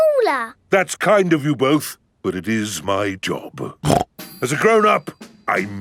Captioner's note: snorts